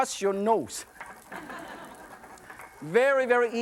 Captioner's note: audience laughs